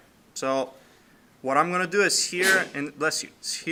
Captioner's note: sneezing